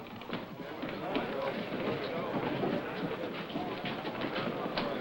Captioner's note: chattering